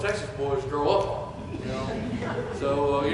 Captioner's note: chuckles